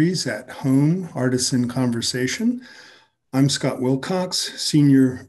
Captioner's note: none